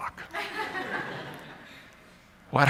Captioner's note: laughter